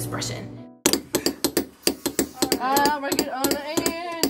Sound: tapping sound

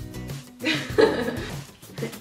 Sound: laughs

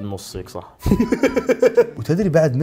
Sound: laughs

